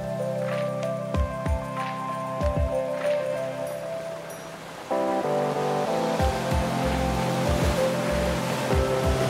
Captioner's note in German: Beifall